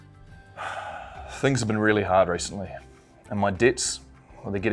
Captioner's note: sighs